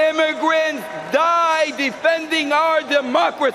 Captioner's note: cheering and applause